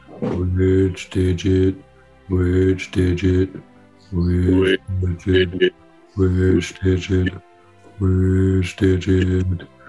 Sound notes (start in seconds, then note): 3.8 all in unison